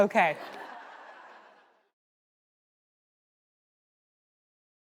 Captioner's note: audience laughter